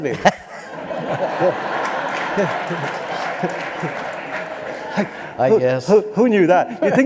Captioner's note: laughter